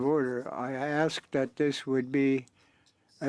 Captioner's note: speaking French